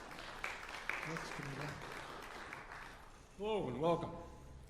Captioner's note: applause